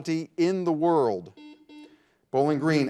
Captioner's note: buzzer buzzes